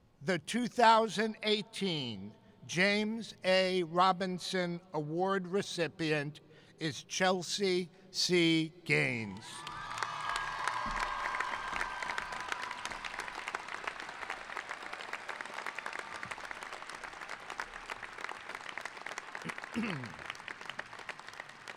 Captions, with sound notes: The 2018 James H. Robinson Award recipient is Chelsea C. Gaines. (cheering) (applauding)